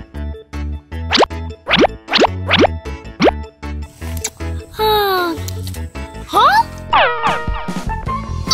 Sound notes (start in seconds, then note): 4.7 sighing